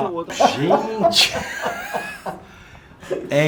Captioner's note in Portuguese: risos